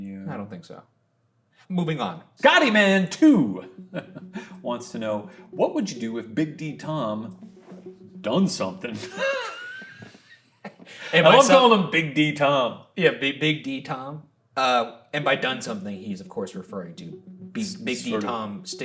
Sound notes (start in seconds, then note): 3.6 chuckling; 8.9 both laughing